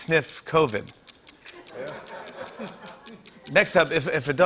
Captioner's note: laughter